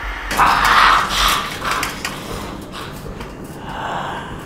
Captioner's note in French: Le monstre grogne, puis s'arrête